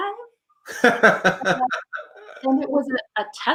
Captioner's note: laughs